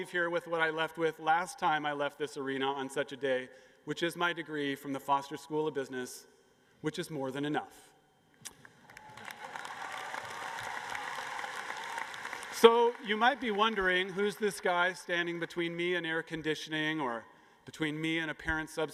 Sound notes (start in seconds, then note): 8.8 cheers and applause